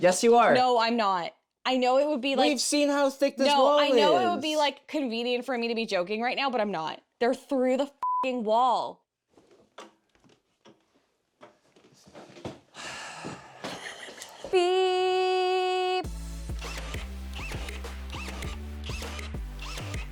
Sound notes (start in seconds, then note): 8.4 beeps; 16.0 bright music